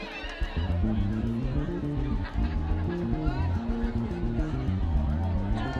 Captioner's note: students cheering and screaming